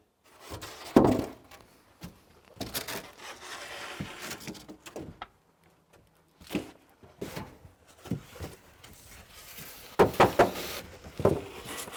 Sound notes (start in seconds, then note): none